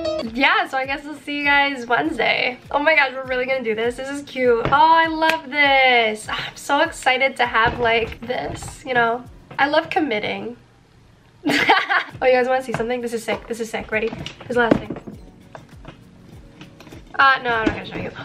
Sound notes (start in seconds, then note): 5.8 claps; 11.5 laughs